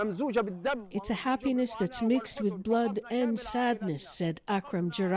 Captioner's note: speaking alternate language